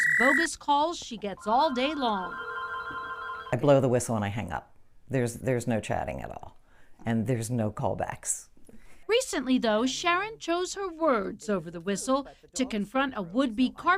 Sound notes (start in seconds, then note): 0.0 whistle blowing; 1.3 phone ringing